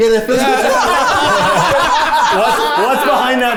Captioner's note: everyone laughs